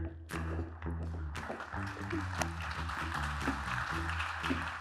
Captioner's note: applause